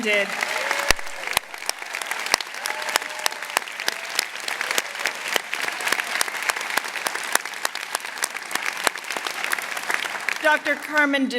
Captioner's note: applause